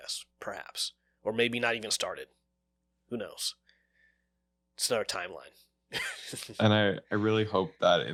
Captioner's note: laughs